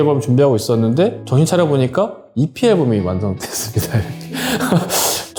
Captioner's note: laugh